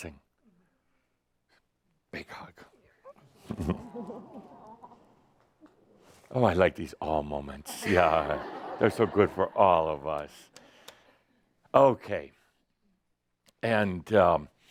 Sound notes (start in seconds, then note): 7.8 laughter